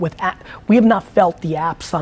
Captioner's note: none